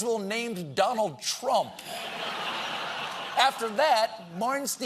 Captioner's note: laughter